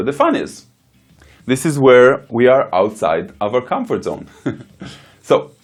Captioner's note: chuckles